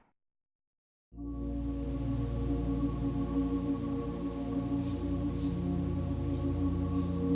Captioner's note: gun fires; peaceful music; birds chirp